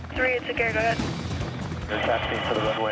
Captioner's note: woman On Radio